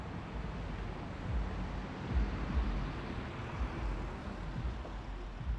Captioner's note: traffic droning softly